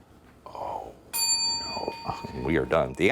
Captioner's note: bell dinging